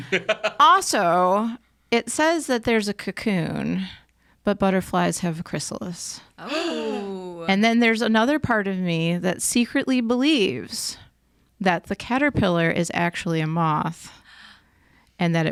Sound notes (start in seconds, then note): 0.0 laughing; 6.3 gasping